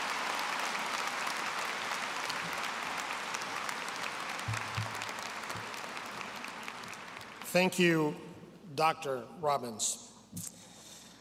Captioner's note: applause